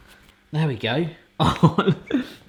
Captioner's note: laughs